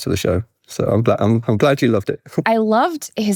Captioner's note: chuckles